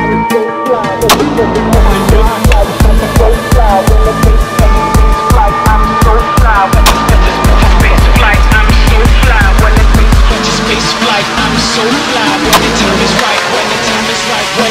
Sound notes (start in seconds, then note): 1.1 gunshots banging; 1.1 intense techno music